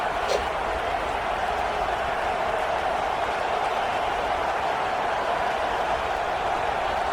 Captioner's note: crowd Noises